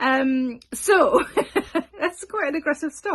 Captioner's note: laughs